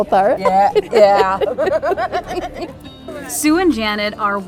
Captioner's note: laughing